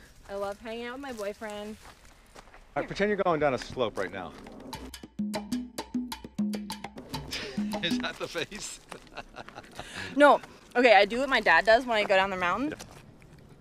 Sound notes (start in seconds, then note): 4.6 drum music; 9.4 laughs